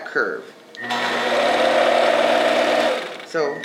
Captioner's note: machine whirring